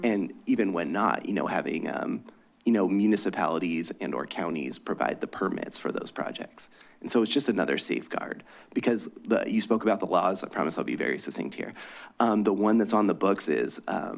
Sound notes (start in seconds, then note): none